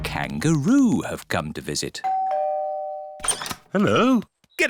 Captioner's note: doorbell rings